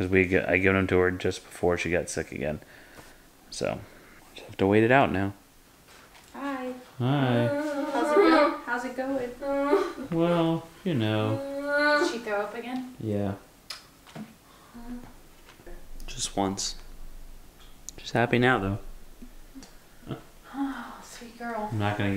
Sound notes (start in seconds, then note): 8.6 whining